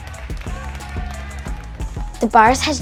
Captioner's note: crowd clapping; intense music